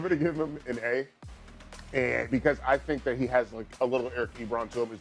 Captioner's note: laughter